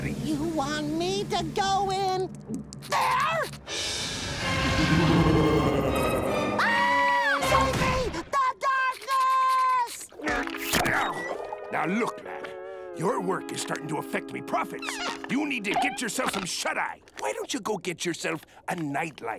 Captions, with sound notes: You want me to go in there? [laughing] [screaming] Save me, the darkness! Now, look, lad. Your work is starting to affect me profits. You need to get some shut-eye. Why don't you get yourself a night light?